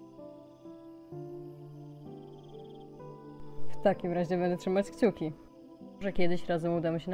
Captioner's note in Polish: none